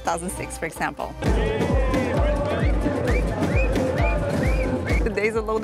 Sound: crowd cheering

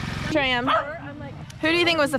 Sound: dog barking

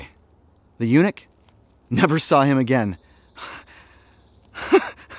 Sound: laughs

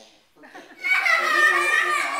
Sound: children laugh

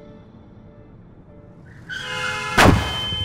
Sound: tires screeching and horn blaring; crash

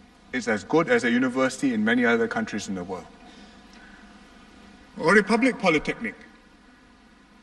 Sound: none

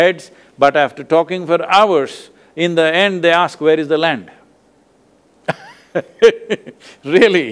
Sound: laughs

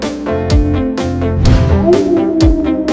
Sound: coyote howl

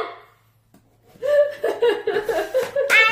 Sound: laughing

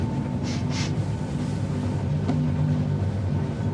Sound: sniffs

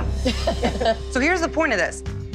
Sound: laughter

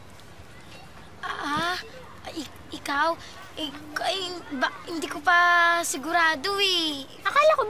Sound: stuttering

